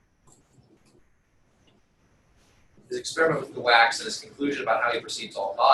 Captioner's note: pause